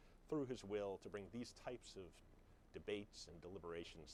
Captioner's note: none